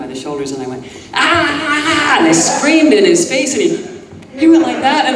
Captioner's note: screams